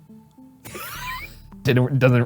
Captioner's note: laughing